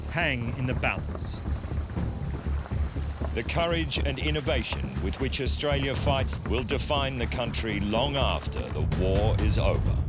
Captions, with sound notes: hang in the balance. [insects buzzing] The courage and innovation with which Australia fights will define the country long after the war is over.